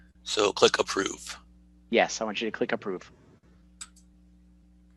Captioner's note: clicks mouse